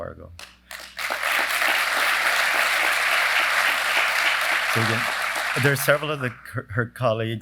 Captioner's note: applause